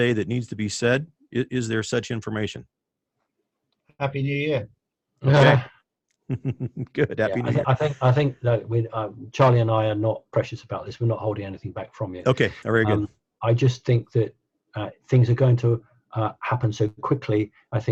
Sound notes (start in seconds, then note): 6.3 laughing